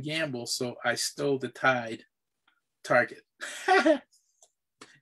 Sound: laughs

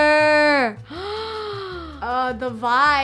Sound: gasps

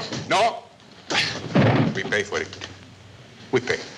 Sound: loud thud

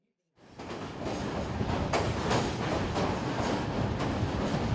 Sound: train rumbling

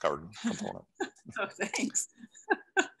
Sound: laughs

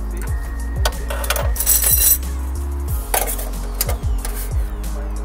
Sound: metal clattering

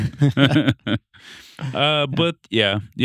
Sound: both laughing

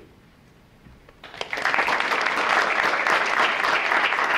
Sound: audience clapping

